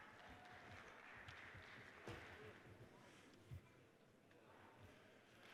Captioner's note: audience cheers and applauds